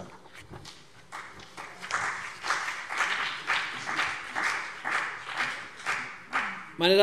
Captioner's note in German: Beifall CDU und BÜNDNIS 90/DIE GRÜNEN